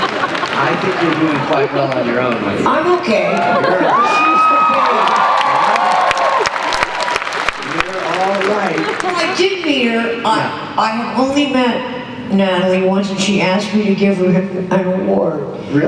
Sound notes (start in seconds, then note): 3.2 cheers and applause